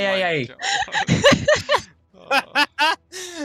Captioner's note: hahahaha